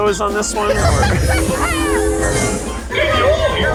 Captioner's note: laughs